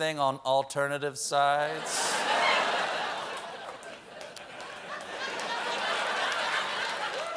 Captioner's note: laughter